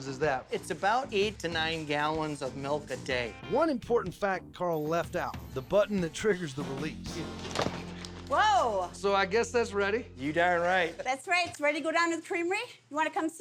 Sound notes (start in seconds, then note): 7.5 thud